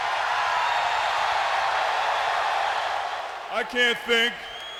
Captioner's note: audience cheers